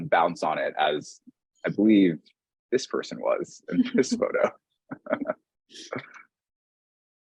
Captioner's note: both chuckling